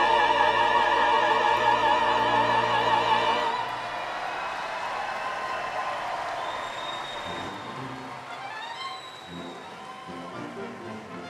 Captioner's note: applause